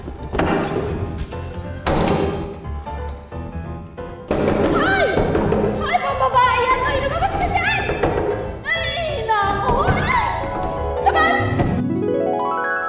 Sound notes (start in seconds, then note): 0.1 door opens; 1.8 door closes; 11.4 door slamms